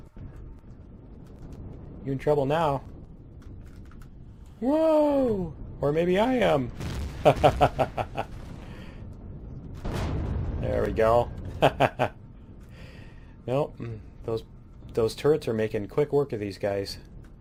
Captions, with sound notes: You in trouble now. Whoa!! Or maybe I am! [explosions] [laughs] There we go. [laughs] Those turrets are making quick work of these guys.